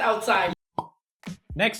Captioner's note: pop